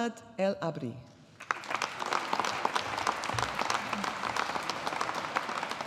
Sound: audience applauding

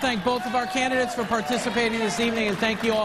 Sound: cheers and boos

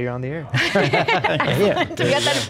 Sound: all laughing

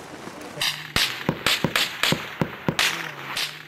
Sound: guns fire

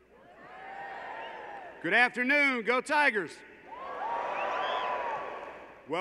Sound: applause

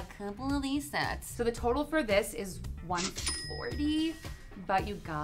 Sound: till rings

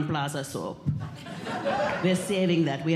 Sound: audience Laughing

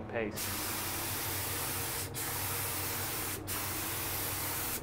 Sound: paint spraying

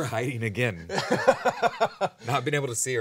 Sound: man laughing

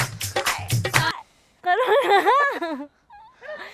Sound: chuckles

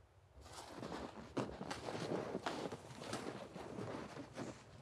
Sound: footsteps crunching

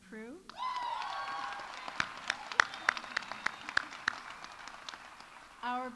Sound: audience cheering; audience applauding

